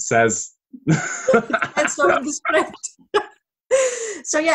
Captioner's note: laughter